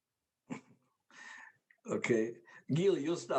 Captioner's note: laughs